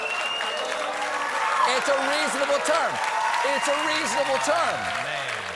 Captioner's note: applause